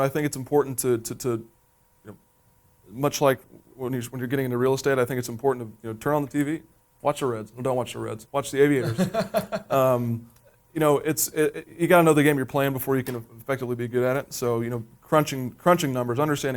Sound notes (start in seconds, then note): 8.8 laughing